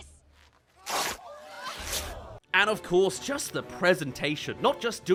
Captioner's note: rips